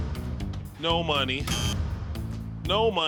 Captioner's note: buzzer blares